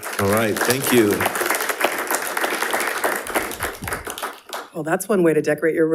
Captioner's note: all applauding